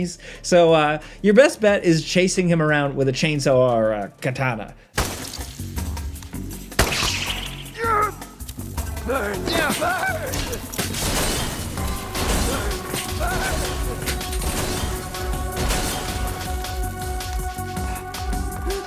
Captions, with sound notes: So your best bet is chasing him around with a chainsaw or a katana. (gun fires, upbeat music) - Burn, burn. Burn, burn. (gun fires, upbeat music)